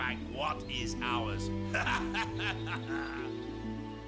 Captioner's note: laughing